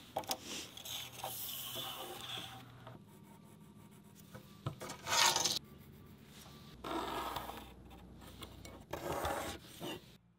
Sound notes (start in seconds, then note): 3.0 pencil scratching